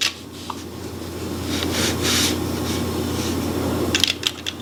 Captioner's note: objects whirring